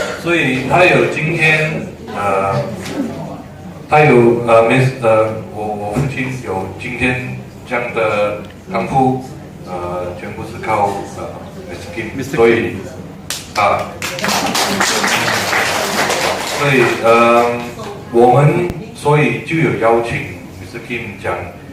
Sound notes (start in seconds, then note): 13.2 clap hands